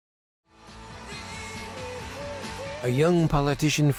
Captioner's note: cheering crowd